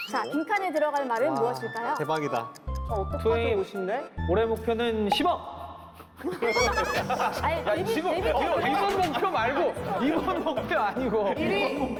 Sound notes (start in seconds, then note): 6.2 laughing